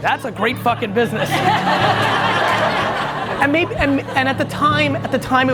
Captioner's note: audience laughs